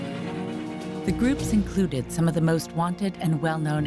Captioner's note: voiceover